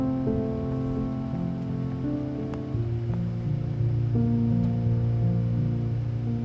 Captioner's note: footsteps